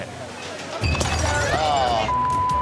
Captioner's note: glass shatters